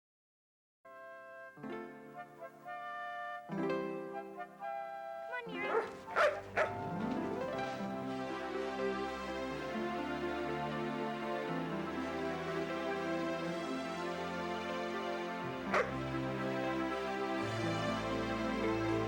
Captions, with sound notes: (pleasant music) - Come on, Nero. (Nero barking) (Nero barks)